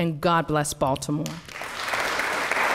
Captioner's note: applause